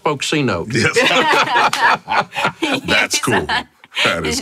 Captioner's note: group laughs